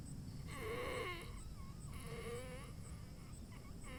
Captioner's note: Keith wheezing